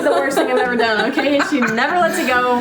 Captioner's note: laughing